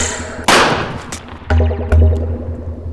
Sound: bam

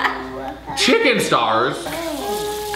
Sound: laughs

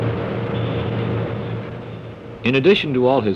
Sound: machines whir

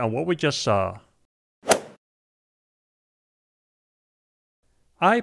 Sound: golf swing sound effect

